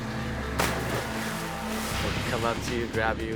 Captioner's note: water splashes